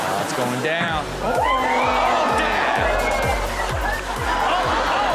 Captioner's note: audience exclaiming